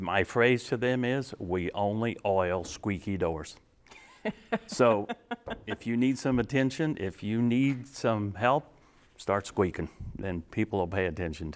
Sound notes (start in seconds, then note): 4.0 laughing